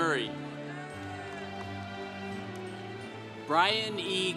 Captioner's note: congregation cheering